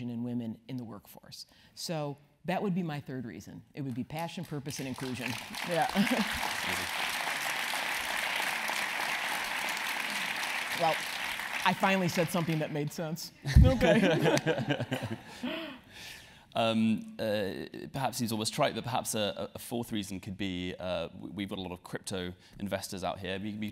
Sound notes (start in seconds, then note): 5.8 laugh; 6.9 applause; 13.5 laugh